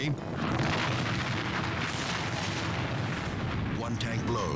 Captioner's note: explosion booming